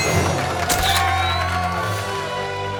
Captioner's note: crowd applauds and cheers; camera flashes; jubilant music